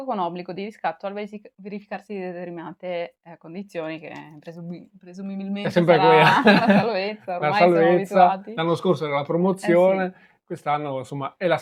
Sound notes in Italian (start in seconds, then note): 6.0 risate